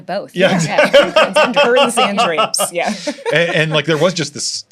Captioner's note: laughing